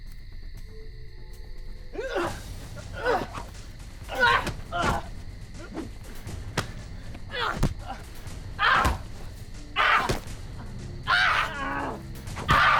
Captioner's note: fight sounds